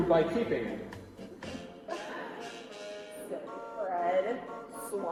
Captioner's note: chuckling